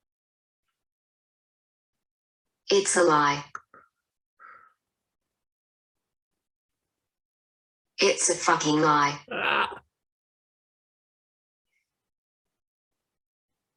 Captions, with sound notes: It's a lie. It's a fucking lie! (screams)